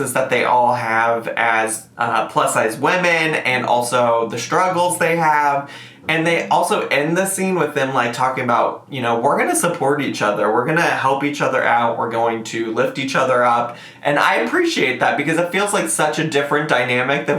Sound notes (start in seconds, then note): none